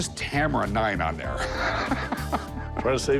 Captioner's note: laughs